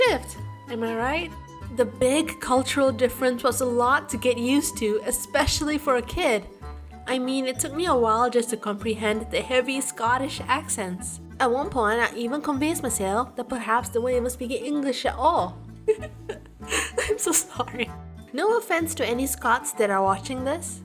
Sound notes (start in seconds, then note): 15.8 giggles